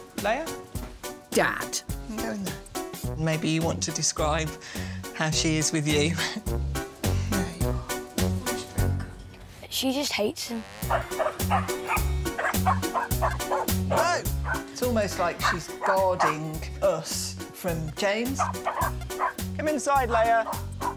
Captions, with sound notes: Leia? Dad. You can go in there. Maybe you want to describe, how she is with you? She just hates him. [Barking] No! It's almost like she's guarding us from James. Come inside, Leia.